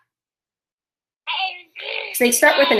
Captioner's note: baby cooing